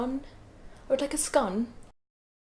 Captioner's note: british accent